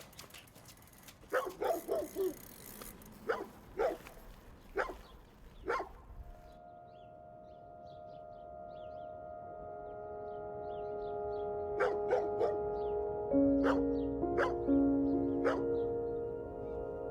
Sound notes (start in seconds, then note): 1.6 birds chirp; 1.6 dog barks; 13.7 gentle somber music